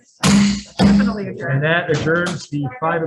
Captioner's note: gavel banging